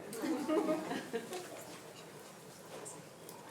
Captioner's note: attendees laughing